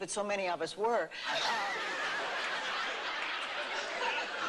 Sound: laughter

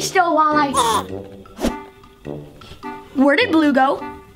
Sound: Red grunting

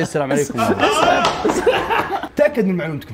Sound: both laughing

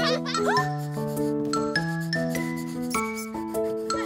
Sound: kids laughing; playful music; girl gasps

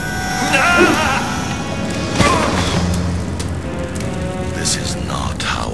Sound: Xavier cries out in pain and falls to the ground

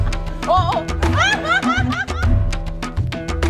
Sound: laugh; background music

